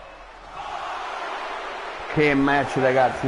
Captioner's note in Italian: Applauso